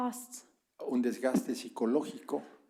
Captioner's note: spanish